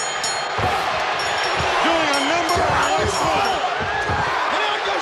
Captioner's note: bell ringing; bell ringing